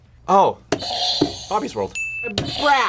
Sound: bell rings; buzzer rings

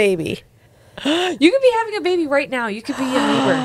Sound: chuckles

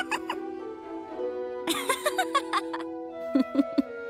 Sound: laughing; chuckling; laughing

